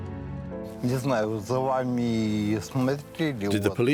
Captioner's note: speaking German